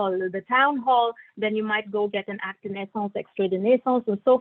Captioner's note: non-english speech